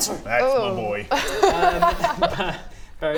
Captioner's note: disgusted yet impressed laugh